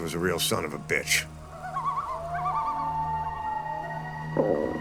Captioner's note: loons calling; stomach rumbling